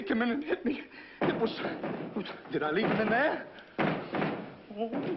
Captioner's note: banging